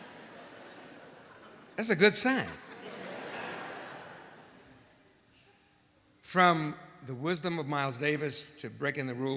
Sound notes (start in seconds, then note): 2.6 laughter